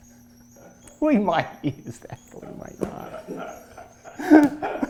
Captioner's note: laughing